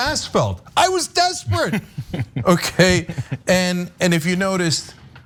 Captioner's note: laugh